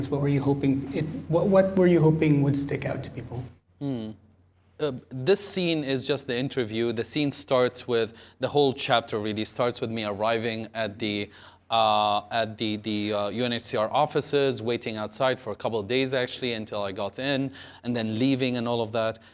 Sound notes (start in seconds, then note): none